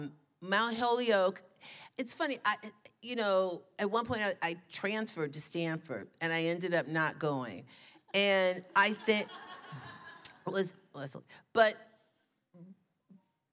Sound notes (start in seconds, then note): 8.9 laughter